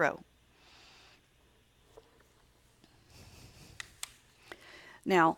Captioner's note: silent